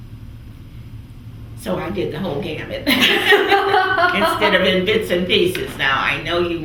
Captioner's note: laughter